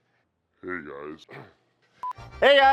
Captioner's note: laughs; deep Distorted Voice